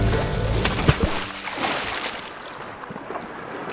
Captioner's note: splash!